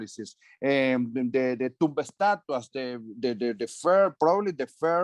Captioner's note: speaking foreign language